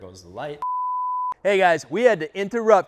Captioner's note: beep effect